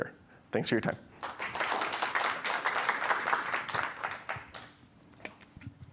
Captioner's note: applause